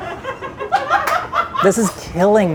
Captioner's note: all laugh